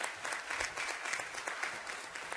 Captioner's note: applause